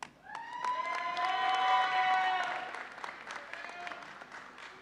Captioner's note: audience cheering